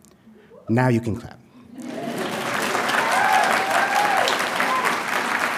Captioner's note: audience applauding